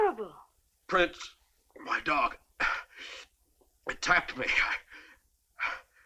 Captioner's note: groaning